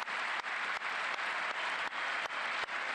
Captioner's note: applause